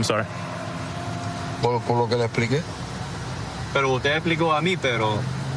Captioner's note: speaking spanish